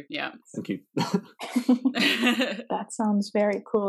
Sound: everyone laughs

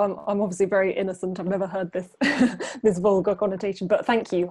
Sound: laughs

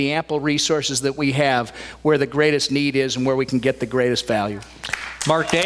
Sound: applause

